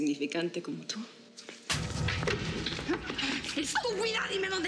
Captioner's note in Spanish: bofetada